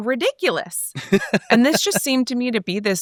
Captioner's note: laughs